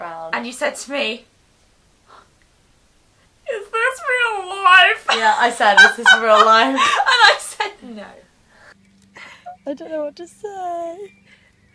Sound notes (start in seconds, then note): 3.4 funny voice; 4.3 laughs